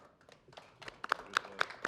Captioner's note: applause